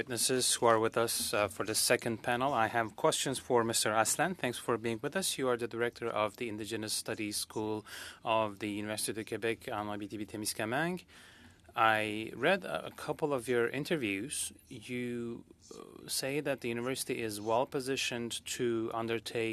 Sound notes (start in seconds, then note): 8.5 speaking French